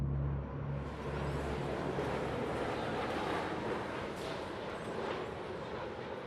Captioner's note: jet engine roaring